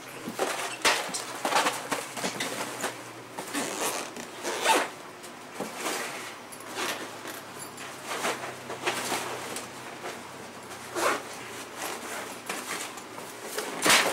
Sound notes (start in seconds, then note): 3.4 bag zip buzzing